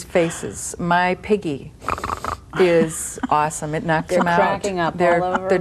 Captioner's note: snorts